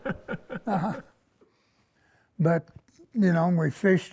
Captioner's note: laughter